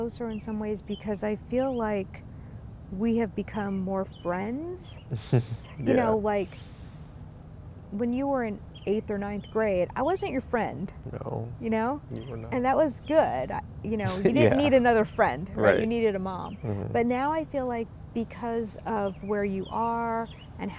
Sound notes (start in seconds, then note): 5.0 chuckling